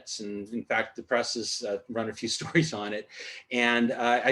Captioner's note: laughter